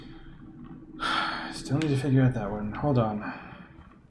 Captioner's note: sighs